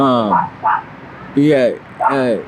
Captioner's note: dog barks